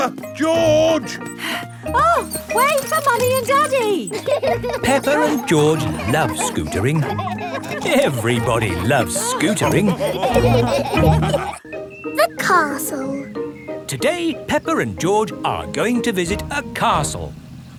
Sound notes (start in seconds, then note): 2.0 panting; 10.9 all laughing